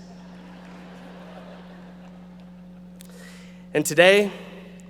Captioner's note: audience laughing